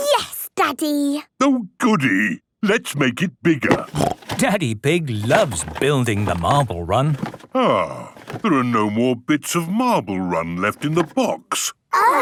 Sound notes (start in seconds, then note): 3.8 snorting